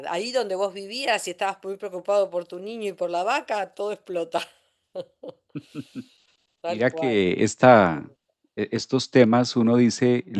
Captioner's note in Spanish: risas